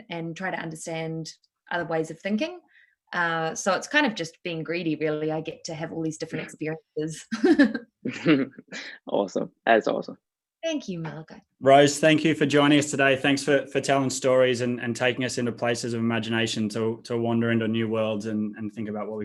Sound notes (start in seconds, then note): 8.0 laughing